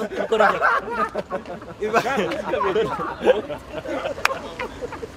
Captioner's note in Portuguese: risadas